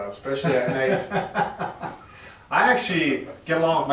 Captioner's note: laughs